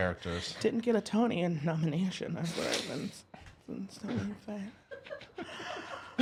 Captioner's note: whispers